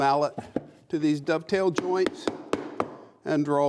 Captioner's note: hammer thudding